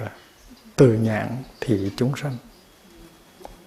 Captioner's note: foreign language